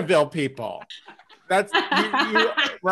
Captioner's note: laughing